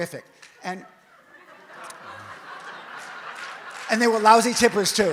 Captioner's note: audience laughs